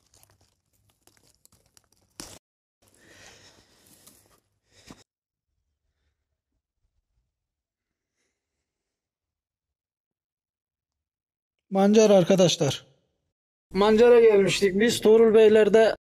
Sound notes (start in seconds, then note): 1.8 the pit sound when I remove the mushroom